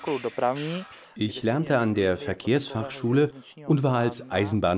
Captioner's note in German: tschechisch